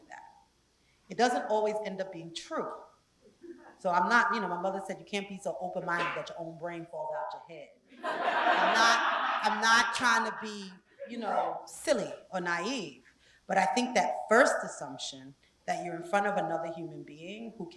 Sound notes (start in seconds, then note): 8.0 laugh